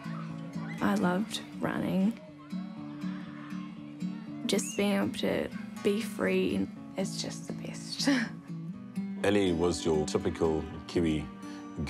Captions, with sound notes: I loved running. Just being able to be free is just the best. (LAUGHS) Ellie was your typical Kiwi girl,